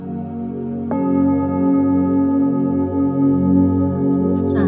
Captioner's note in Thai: เสียงระฆังเซ็น